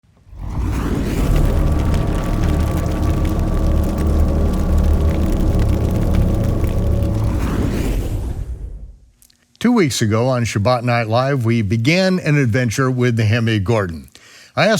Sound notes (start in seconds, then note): 0.3 intense whooshing; 2.0 flames crackling; 7.2 intense whooshing